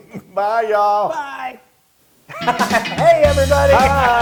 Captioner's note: laugh; laugh